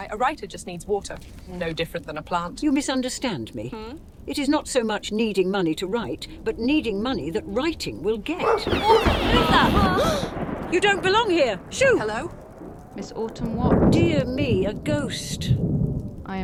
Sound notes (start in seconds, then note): 8.4 dogs bark; 8.6 thunder roars